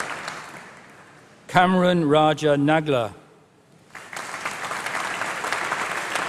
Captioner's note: applause